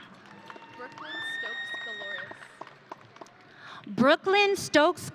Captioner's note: audience cheering